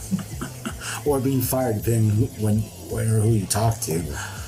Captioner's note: laughs